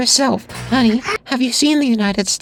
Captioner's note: terrified scream, electrical buzz